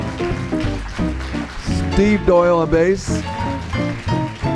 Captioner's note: applause